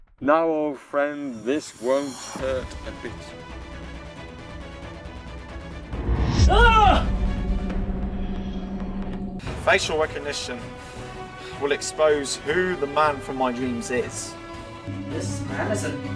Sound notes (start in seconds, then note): 6.2 screams and gasps